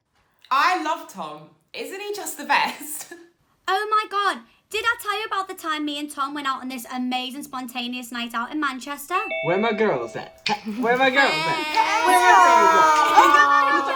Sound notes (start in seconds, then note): 9.2 doorbell